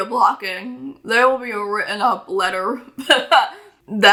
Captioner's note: laughs